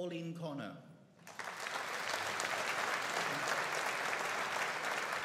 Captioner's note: audience applauding